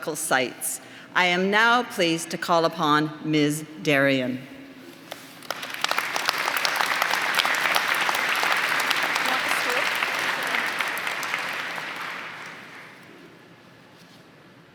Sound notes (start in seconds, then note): 6.4 applause; 9.8 applause; 13.3 applause